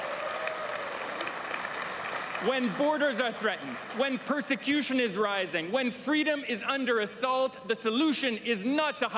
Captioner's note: applause